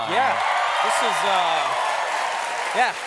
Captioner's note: cheers and applause